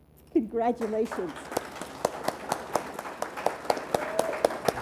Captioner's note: audience applauds